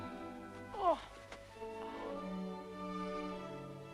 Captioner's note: Hundra groans